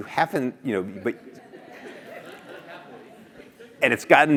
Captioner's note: laugh